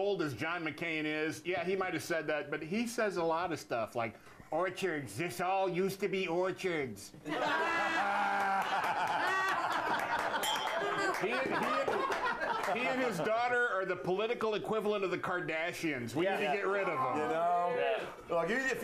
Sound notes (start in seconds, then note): 10.4 bell rings; 11.1 laughter